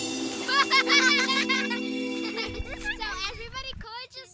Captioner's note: theme music; girls laughing